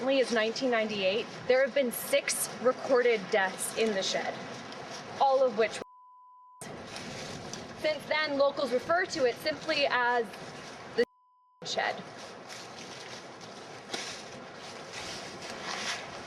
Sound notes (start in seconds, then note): 5.8 beeping; 11.4 beeping